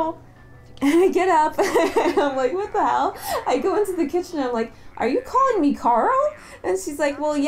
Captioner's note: laughing